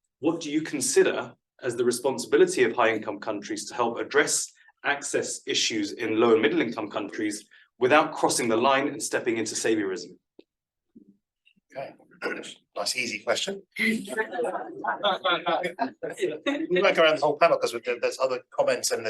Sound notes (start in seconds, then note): 13.7 everybody laughing